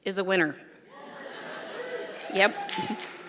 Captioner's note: audience laughing; audience applauding